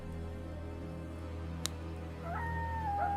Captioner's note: fire crackling; coyotes howling